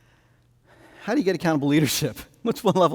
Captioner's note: laughing